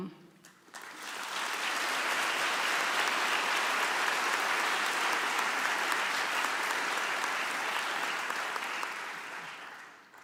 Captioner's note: applause